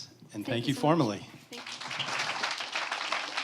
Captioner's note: applause